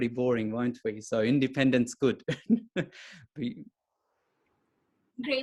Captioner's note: chuckles